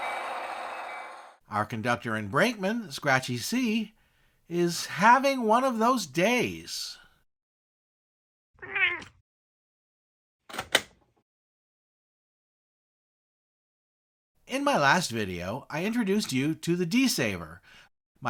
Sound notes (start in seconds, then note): 8.6 meow!